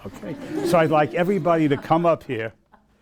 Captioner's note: laughing